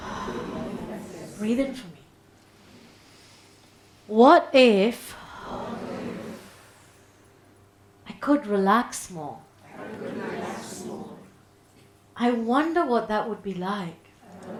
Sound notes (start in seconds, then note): 2.6 people inhaling; 5.1 people exhaling